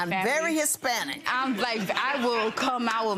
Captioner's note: laughing